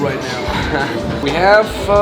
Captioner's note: laughs